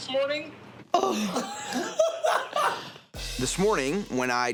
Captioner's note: laughing